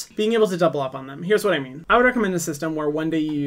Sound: none

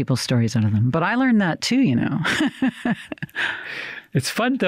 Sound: laughs

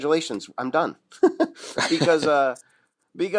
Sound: chuckle

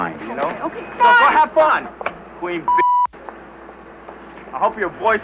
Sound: beeps

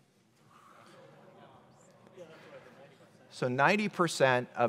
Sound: audience chattering

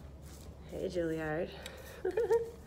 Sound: chuckling

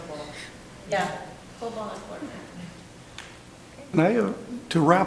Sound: speaks quietly

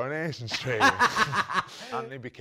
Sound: both chuckle

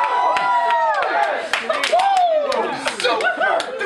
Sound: cheering

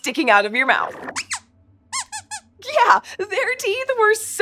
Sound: squeaks squeaks

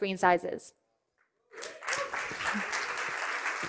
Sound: cheering and applause

